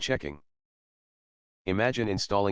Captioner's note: pause